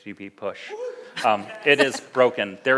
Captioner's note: laughs